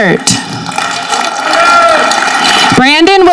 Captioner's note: audience clapping